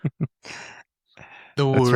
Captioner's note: laughing